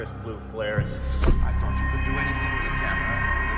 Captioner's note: Orson Welles faded voice